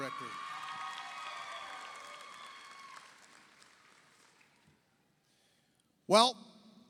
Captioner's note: audience cheers; audience applauds